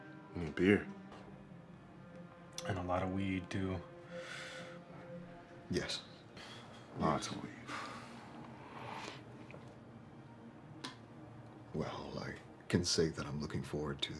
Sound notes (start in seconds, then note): 4.7 inhales; 7.6 exhales; 9.2 tense music continues